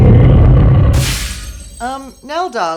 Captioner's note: shattering glass